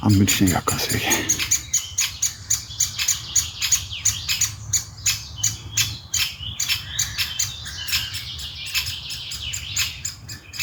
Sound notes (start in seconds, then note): 1.9 birdsong